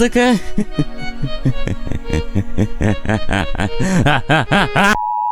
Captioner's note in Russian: смех как у психопата